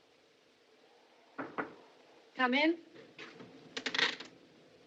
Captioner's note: knock At Door